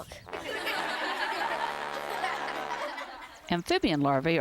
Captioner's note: laughter